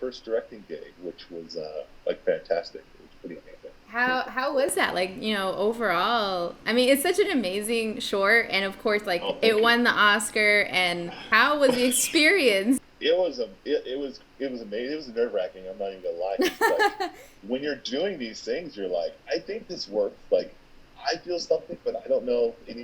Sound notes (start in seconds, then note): 16.4 laughing